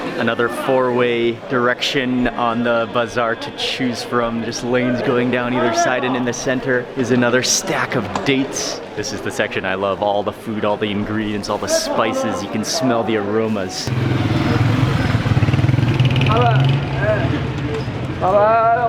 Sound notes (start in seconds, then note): 13.8 motorcycle engine revving